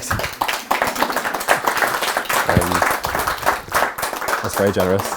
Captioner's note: crowd applauding